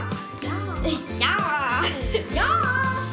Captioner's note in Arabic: الضحك